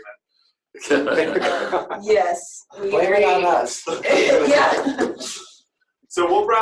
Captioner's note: laughter